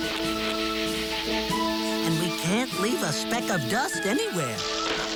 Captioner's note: squealing